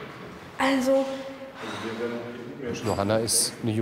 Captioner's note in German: seufzt